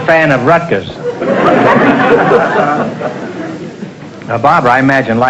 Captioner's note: audience laughter